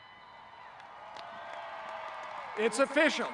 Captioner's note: audience cheering